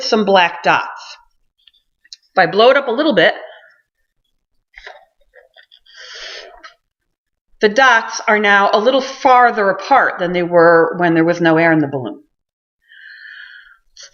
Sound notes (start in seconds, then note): 5.9 sound of balloon blowing up; 12.4 sound of balloon being blown up